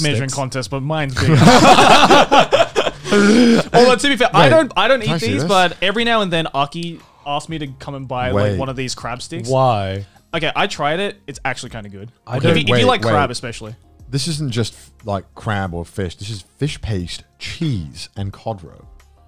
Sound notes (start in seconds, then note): 1.2 laughing